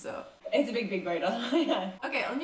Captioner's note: laughs